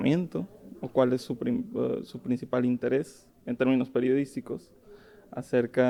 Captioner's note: speaking in foreign language